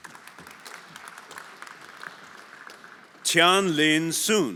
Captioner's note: everyone applauding